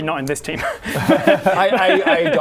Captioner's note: sabotaging giggles